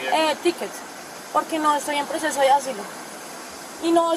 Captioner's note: speaking in Spanish